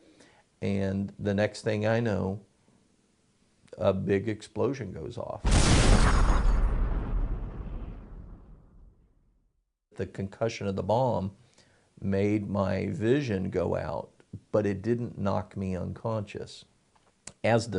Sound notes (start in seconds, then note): 5.4 explosion and glass breaking sounds